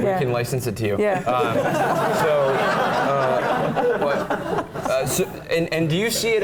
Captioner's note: laugh